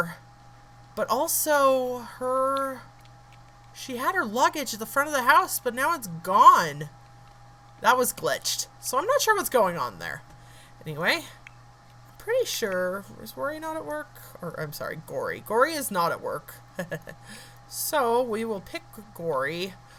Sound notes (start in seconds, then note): 16.8 laughs